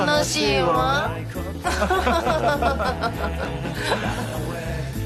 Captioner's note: all chuckle bitterly